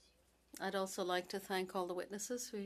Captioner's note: speaking French